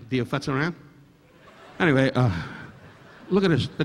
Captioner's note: audience laughing